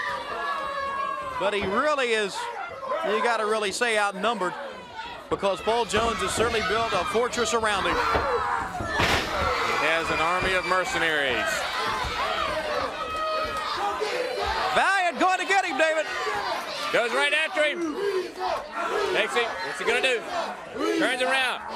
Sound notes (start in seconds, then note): 0.3 crowd chatter; 12.2 crowd chatter